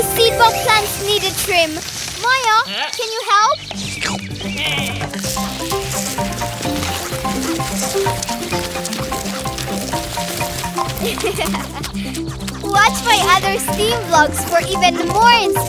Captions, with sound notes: (playful music) (chuckling) Watch my other Steam vlogs for even more inspiration. Together we can change the world.